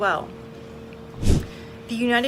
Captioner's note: air whooshes